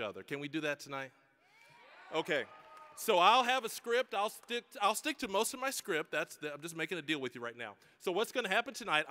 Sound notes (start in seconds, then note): 1.6 audience cheering